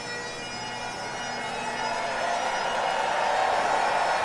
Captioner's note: audience cheering